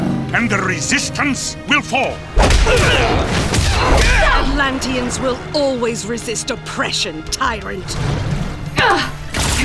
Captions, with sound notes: and the resistance will fall. [FIGHTING GRUNTS AND IMPACTS] Atlanteans will always resist oppression, tyrant.